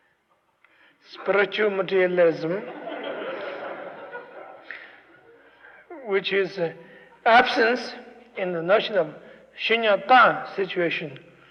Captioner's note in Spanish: risas